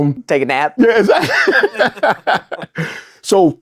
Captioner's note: laughs